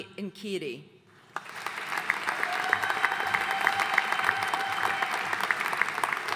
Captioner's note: audience cheering and applauding